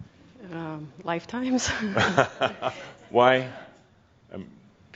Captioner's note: Adamus chuckles